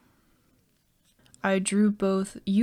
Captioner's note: silence